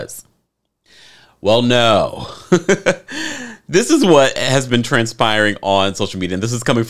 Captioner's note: laughs